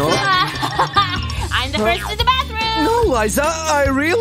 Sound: groans

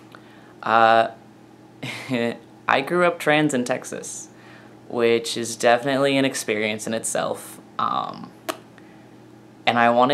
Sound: chuckle

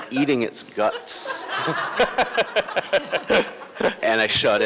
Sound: laughter

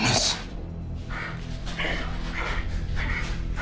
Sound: panting

